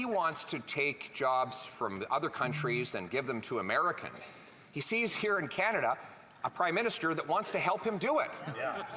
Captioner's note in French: voix de l'interprète